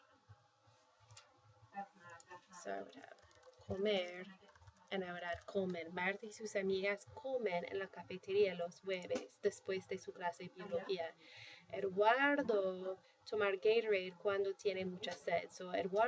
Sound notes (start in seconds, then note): 2.5 spanish; 5.4 speaking spanish